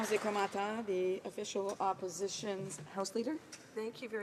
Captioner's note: applause